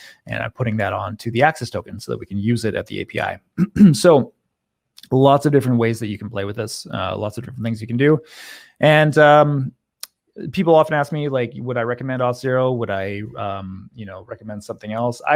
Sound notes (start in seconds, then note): 3.5 clears throat